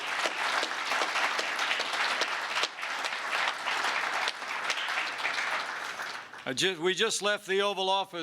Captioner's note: applause